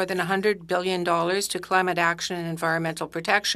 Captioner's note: speaking French